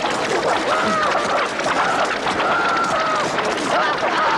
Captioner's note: screaming louder